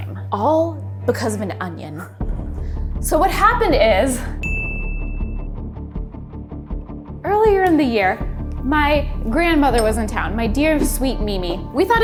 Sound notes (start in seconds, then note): 4.4 bell dinging; 4.5 tense music